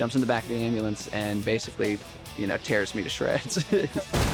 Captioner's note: chuckles